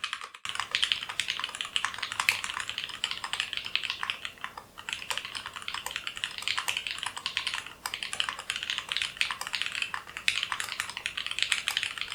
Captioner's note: super hot after mod keyboard typing sounds